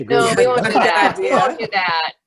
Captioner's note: laughter